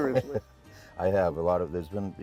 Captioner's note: chuckles